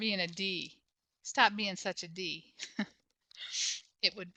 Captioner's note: chuckles